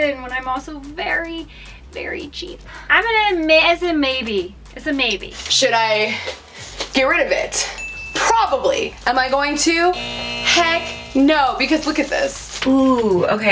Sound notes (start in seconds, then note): 7.8 tri-tone sound; 8.8 buzzer sound